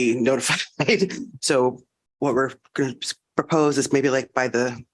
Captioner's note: laughter